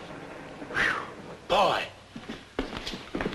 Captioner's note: whew!